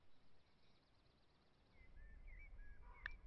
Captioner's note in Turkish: kuş sesleri